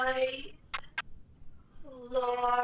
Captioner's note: Static